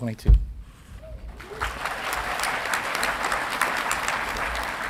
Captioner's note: audience clapping